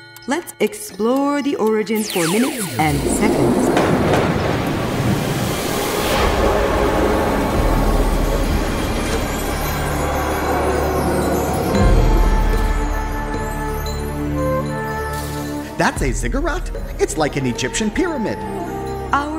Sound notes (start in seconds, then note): 4.2 machine noises